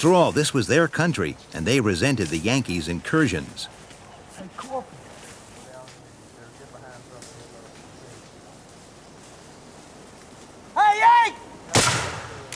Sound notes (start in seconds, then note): 5.0 soft chattering